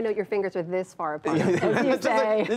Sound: laughter

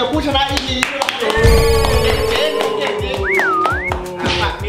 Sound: applauding

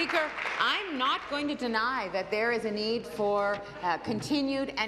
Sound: applause

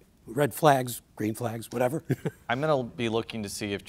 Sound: chuckles

